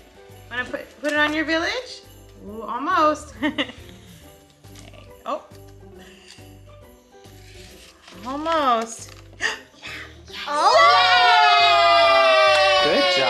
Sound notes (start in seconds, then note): 3.4 laughs; 9.4 gasps; 10.4 all cheer